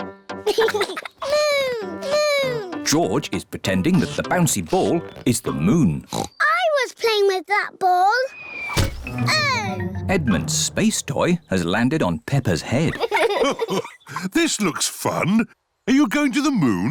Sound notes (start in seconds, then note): 6.0 oinks; 8.6 thudding; 12.8 chuckles